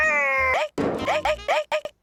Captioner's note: gunshot